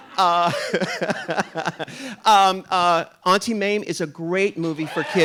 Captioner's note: RuPaul laughs